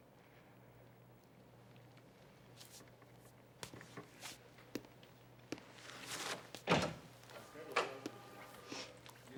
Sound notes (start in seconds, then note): 6.6 door opens